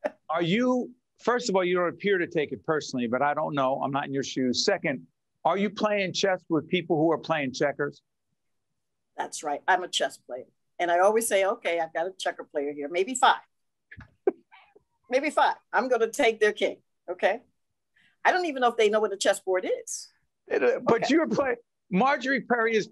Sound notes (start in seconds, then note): 14.0 laughing